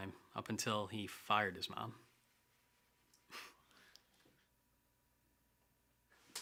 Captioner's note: laugh